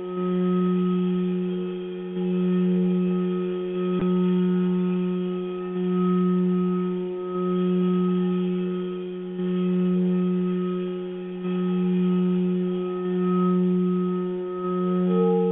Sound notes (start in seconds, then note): 9.6 vibrating tone